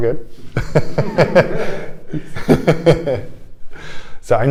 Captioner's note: laughter